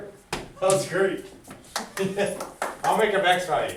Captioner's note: laughs